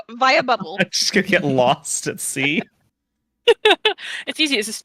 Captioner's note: laughs